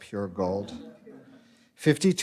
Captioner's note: light laughter